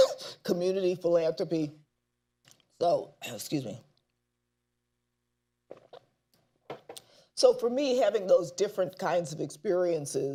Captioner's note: coughs